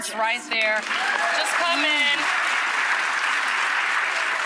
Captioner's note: audience cheering